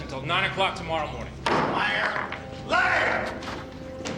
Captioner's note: gavel bangs